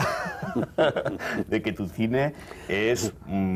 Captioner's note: Ambos se ríen